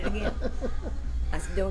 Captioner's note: laughs